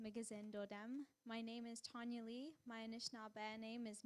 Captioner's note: in English